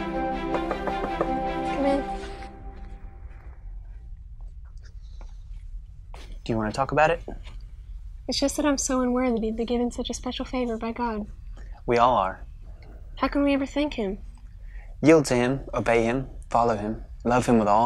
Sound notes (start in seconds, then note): 0.0 instrumental music; 0.5 knocking